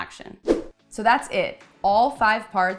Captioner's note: whooshing